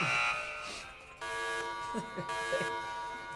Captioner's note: alarm blaring; laughing